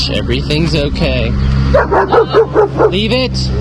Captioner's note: Moxy continues barking